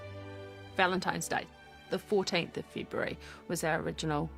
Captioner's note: none